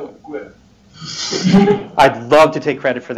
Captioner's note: laughter